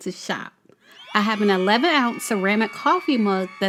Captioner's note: people cheering